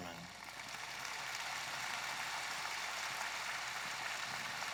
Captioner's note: audience applauding